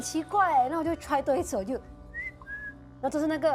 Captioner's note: whistle sound